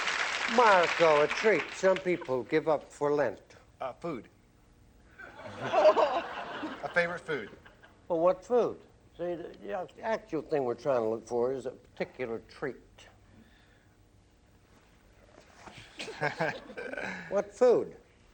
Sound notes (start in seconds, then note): 5.2 laughter; 15.7 laughter